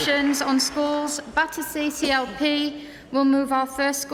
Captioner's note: applause